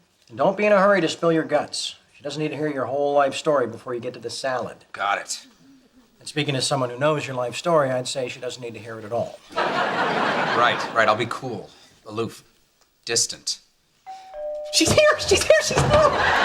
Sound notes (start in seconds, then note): 9.5 audience laughs; 14.0 door bell rings